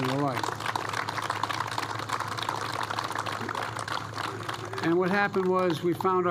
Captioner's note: applause